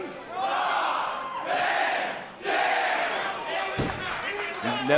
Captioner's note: crowd cheering